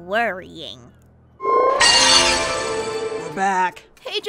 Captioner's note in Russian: звуки телепорта